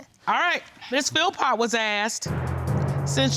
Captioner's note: none